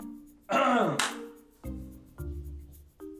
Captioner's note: clears throat; claps; comical music